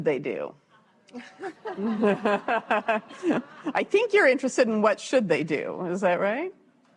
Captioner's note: laughs